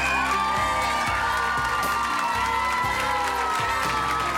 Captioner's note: cheering